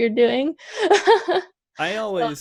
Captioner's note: laughs